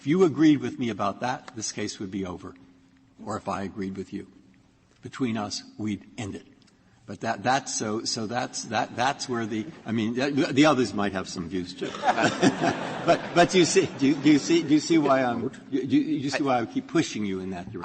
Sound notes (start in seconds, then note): 11.8 laughter